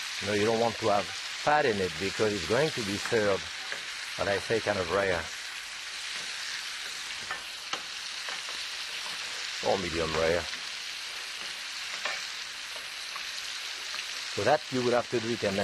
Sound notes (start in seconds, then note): 10.6 pan continues sizzling